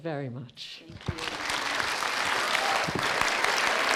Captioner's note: applause